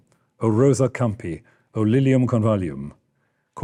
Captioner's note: speaking Latin